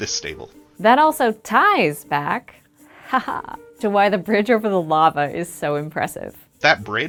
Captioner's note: ha ha!